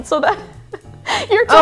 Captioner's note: laughing